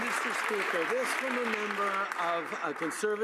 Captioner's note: some Applause